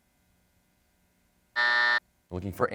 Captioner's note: buzzer sounds